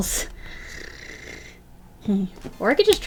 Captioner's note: low growl